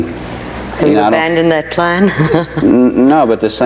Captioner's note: chuckles